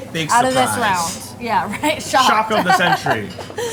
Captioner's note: laughs